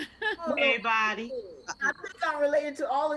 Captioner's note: participant laughs